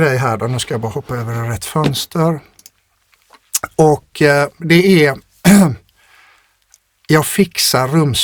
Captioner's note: clears throat